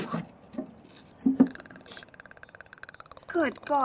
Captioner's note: animal hissing